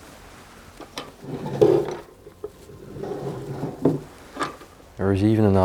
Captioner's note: opening and closing drawers